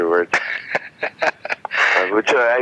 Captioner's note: laughing